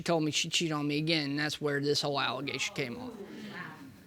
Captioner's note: audience gasping